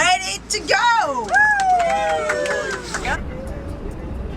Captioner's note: cheers and applause